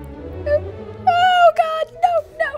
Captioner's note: yelps